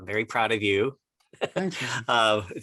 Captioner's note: laughter